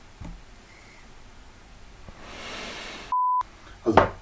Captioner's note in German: Tiefer Atemzug; Aus dem Off